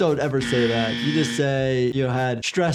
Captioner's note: buzzer buzzes